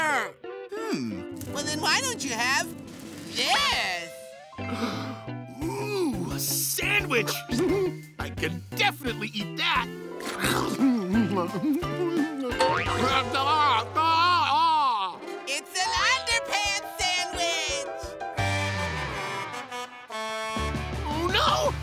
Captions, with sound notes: Hmm, well then why don't you have this! Ooh, a sandwich! Mmm, I can definitely eat that. Nom nom nom. [gagging] It's an underpants sandwich! [truck horn] Oh no!